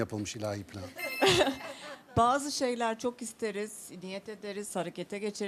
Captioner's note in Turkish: kahkaha